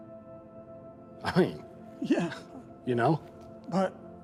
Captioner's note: laughs